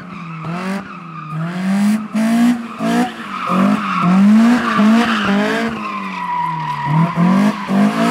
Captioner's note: car sounds